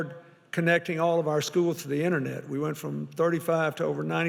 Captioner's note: none